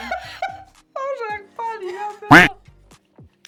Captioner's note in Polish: śmiech